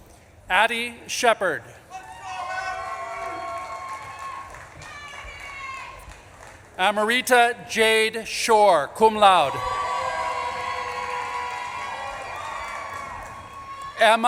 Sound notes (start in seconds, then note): 4.1 audience claps and cheers; 9.4 audience claps and cheers